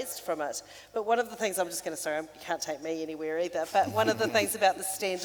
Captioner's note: laughing